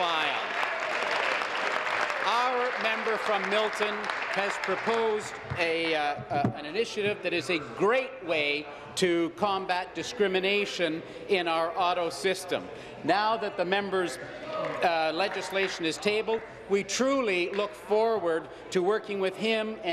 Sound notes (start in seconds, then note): 2.9 applause